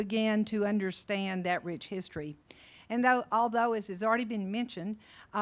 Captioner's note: none